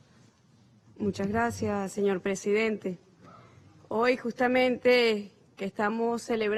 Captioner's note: speaks foreign language